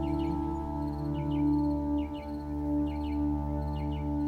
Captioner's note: birds chirping